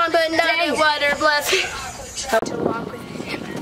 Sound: mumbles and laughs

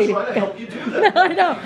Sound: laughter

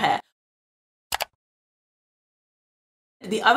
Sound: click

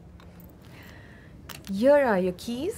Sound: keys jingle

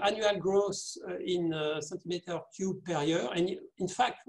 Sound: murmur

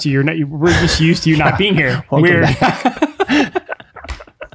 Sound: laughs

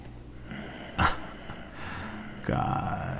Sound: chuckle

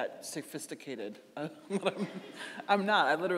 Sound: chuckling

